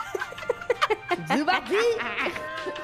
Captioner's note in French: rires